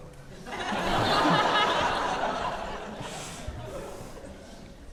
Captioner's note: audience laughing